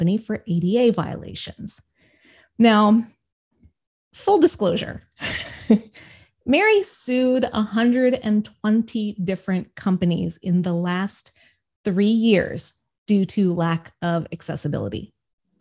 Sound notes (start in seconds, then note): 5.3 laughs